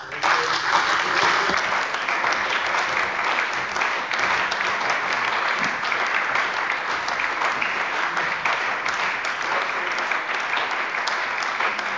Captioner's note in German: Beifall bei der CDU, der SPD, dem BÜNDNIS 90/DIE GRÜNEN und der FDP